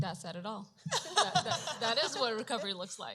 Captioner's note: laughter